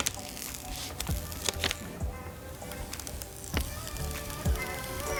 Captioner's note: screen protector peeling